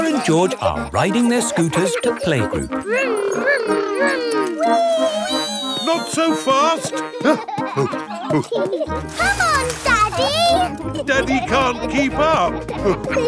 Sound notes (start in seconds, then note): 6.8 panting; 7.7 peppa and george laughing